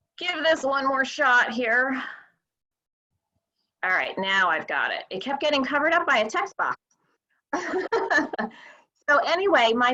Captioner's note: chuckling